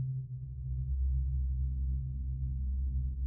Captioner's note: none